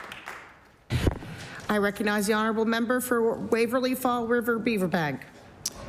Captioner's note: applause